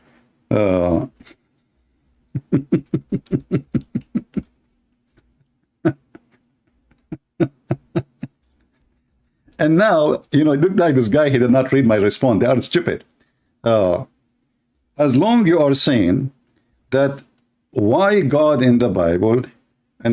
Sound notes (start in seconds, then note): 2.3 laughter